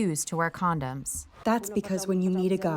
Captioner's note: through translator